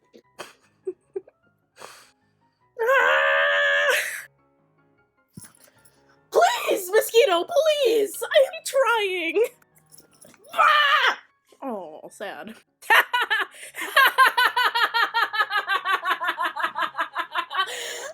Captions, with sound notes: [LAUGHTER] [SCREAMING] Please, mosquito, please. I'm trying -- [SCREAMING] Aw, sad. [LAUGHTER]